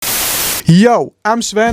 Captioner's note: malfucntion sound and screen